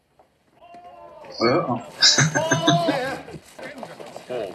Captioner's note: laughing